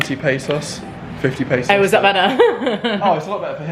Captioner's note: laughs